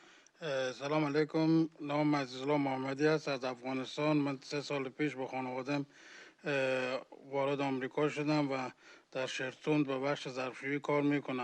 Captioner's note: speaking